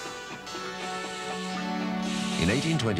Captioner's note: steam hissing